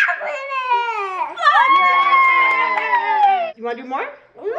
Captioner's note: all cheering